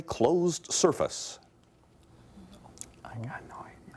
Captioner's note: whispering